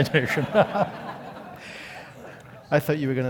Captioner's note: laugh